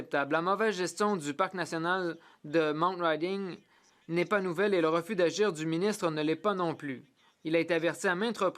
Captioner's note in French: voix de l'interprète